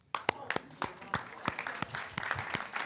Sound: claps

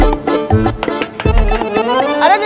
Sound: knocking on the door

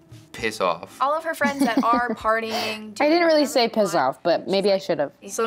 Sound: chuckles

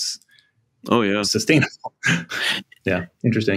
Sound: laughs

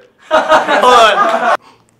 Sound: loud laughter

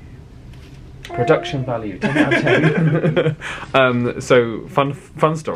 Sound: laughs

